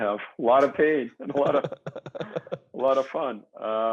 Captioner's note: chuckling